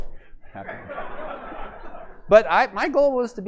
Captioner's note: laughter